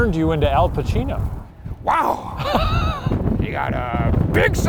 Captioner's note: laughing